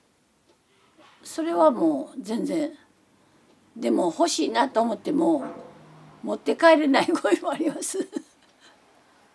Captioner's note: laughs